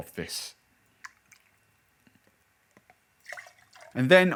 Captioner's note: liquid pouring